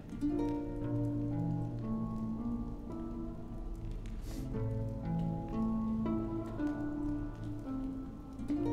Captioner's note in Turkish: Alev sesi; Müzik - Gerilim